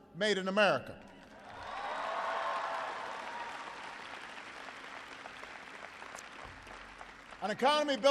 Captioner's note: applause